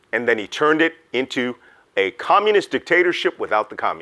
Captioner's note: none